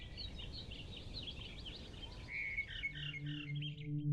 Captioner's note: birds chirping